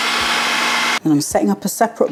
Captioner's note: food processor whirring